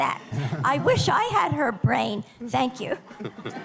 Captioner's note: laughter